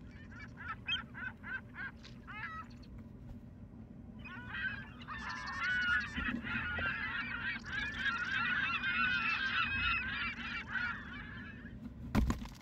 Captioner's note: gull noises